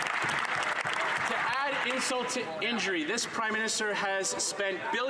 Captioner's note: some Applause